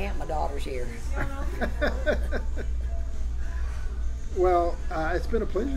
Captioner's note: laughs